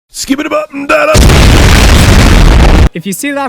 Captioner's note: explosion